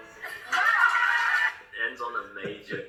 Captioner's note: crowd cheering